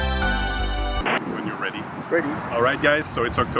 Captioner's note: staticky white noise